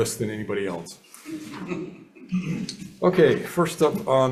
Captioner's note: members chuckling